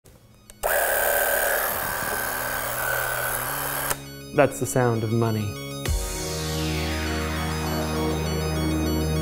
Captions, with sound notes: (camera shooting) - That's the sound of money. (upbeat music)